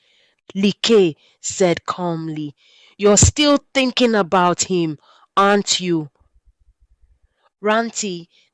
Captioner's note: said calmly